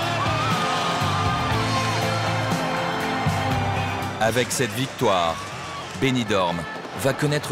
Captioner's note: applause